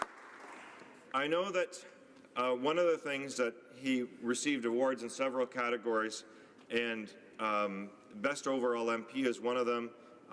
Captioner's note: applause